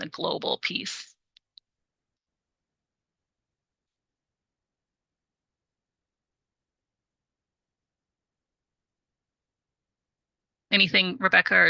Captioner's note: silent